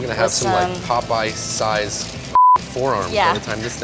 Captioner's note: beep